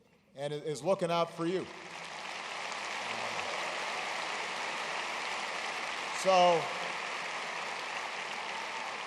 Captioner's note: applause